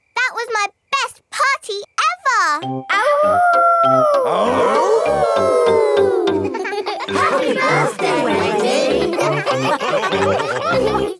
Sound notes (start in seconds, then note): 4.2 howling; 5.1 all howling; 9.7 all laughing